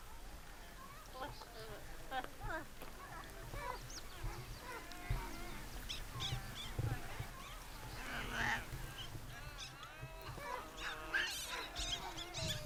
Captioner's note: monkey sounds